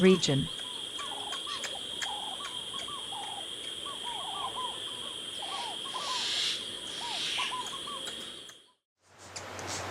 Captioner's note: birds chirping